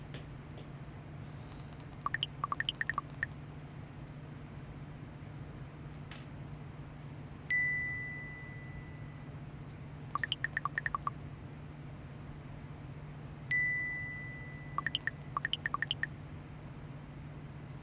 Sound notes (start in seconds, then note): 2.0 text chirping; 7.4 notification dings; 10.1 text chirping; 13.5 notification dings; 14.8 text chirping